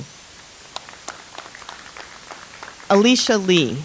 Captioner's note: audience applauds